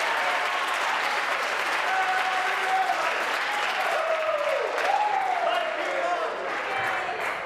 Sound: applause; cheering

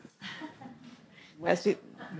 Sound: audience laughing

